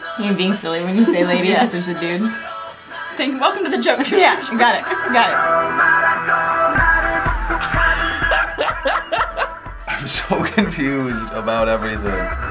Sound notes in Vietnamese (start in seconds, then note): 7.6 cười dã man